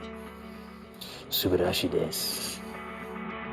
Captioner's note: speaking Japanese